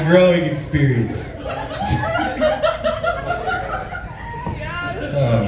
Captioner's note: laughs